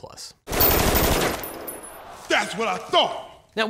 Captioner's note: automatic gunfire